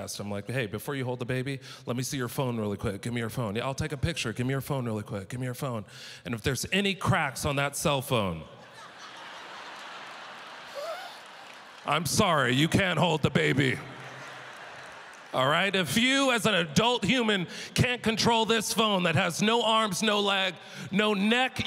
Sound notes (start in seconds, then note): 8.6 audience laughter